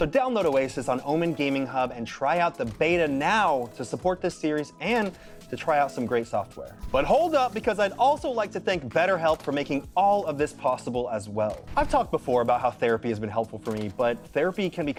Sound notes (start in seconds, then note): none